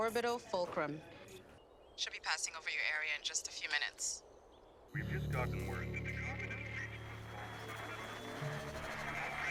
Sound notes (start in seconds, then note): 6.2 crowd